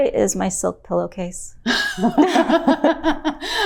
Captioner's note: both laughing